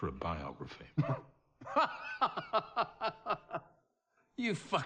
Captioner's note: laughing